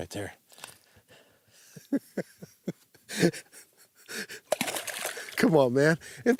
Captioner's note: laughs